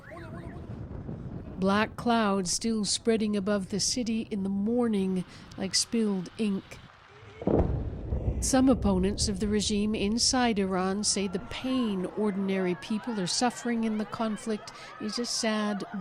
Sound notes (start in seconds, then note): 10.2 bombing